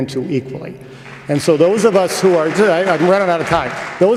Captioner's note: applause